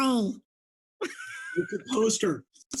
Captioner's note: laughs